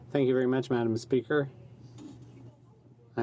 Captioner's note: speaking French